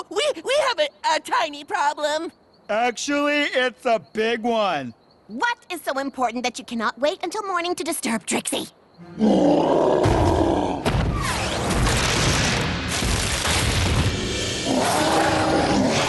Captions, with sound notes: Uh, w-We -- We have a tiny problem. Actually, it's a big one. What is so important that you cannot wait until morning To disturb Trixie? [ Growling ] [ Thud! Thud! Thud! ] [ Roars ]